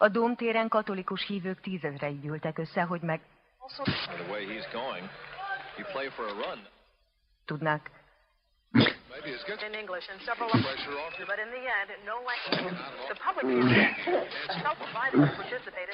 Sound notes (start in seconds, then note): 8.9 changing channels rapidly